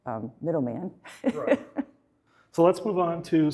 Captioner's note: laughing